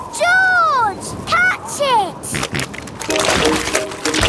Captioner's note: snorting